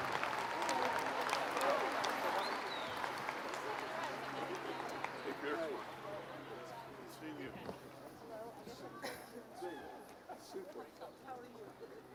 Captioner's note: applause